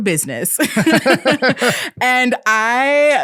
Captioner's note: both laughing